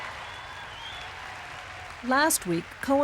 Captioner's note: audience laughs and cheers